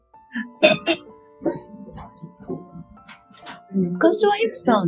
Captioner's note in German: lacht leise